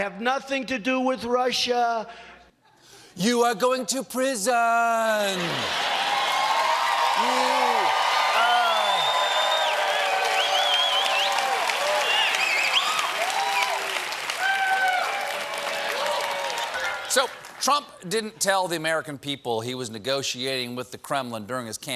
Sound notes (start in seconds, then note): 10.9 cheers and applause